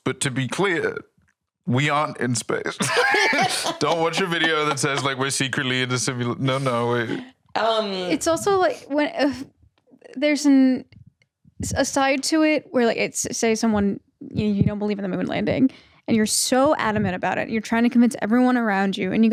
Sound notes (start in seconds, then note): 1.8 laughs; 9.0 sighs